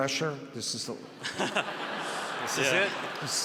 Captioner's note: audience laughs